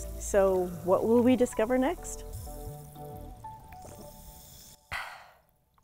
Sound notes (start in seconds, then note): 3.2 gentle music; 4.6 aah